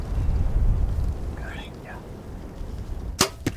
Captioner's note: whispering